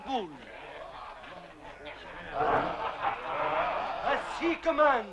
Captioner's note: chieftains laughing